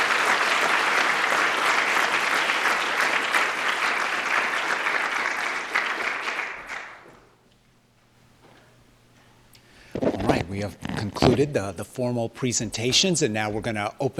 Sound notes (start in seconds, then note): 0.0 applause